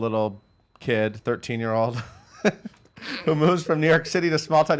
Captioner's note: laughs